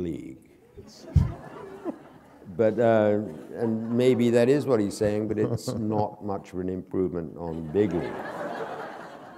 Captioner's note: laughter